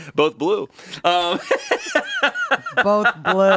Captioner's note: laughing